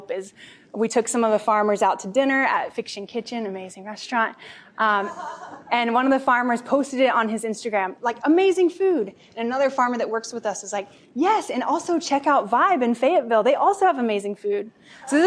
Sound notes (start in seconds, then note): 5.0 laughter